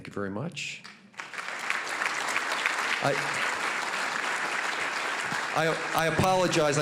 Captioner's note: applause